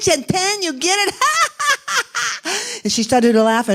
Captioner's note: laughing